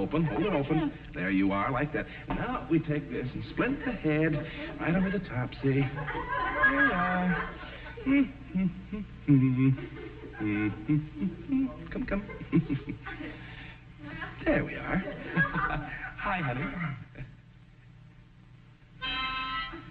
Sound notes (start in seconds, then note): 14.7 chuckles